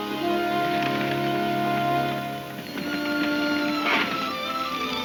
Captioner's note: hooves thudding